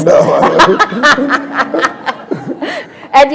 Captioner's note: laughter